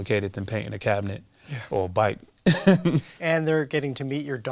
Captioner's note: laughs